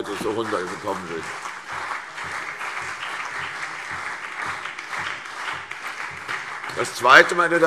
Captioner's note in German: Beifall CDU und BÜNDNIS 90/DIE GRÜNEN